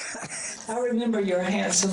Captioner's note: audience laughter